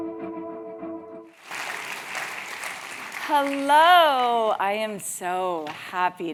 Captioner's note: applause